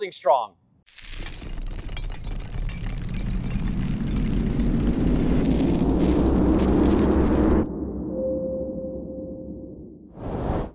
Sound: building Noises

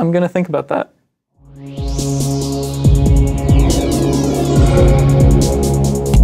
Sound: electronic whirring

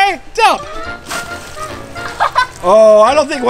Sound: water splashes

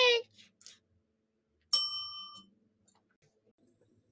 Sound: bell dings

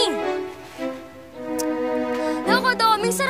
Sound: clicks tongue

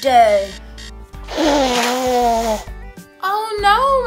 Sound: blowing noises

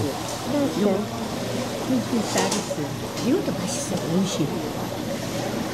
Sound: Taiwanese and Koreans conversing in Japanese

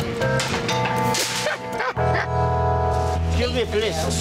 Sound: Jon laughs

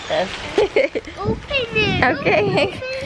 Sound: laugh

